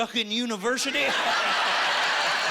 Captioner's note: laughing